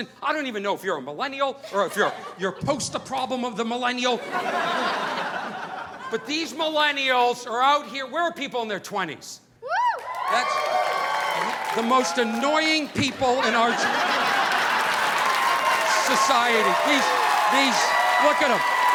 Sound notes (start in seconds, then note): 4.2 audience laughing; 10.3 crowd cheering